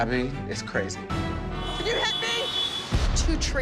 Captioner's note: horns honking